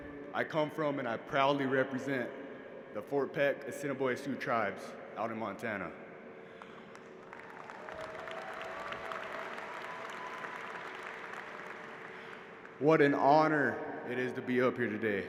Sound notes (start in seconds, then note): 6.5 applause